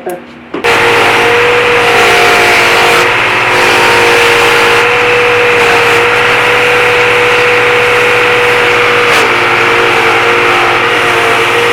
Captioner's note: saw buzzing